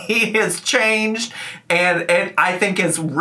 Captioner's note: laughing